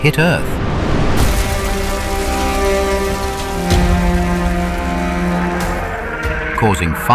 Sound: crashing sound

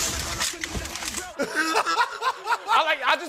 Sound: laughing

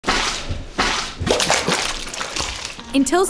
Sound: sloshing

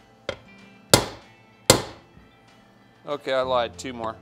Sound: hammer pounding

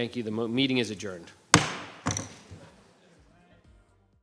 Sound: bangs gavel

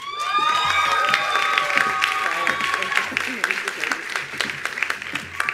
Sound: attendees applauding

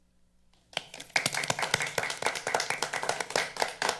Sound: all applauding

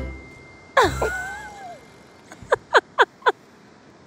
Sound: laughs

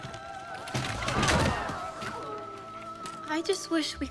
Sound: girls grunt

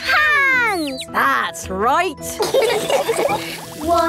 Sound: all laughing

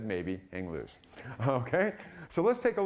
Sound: laughing

